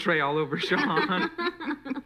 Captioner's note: laughing